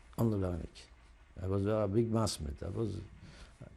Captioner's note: non-english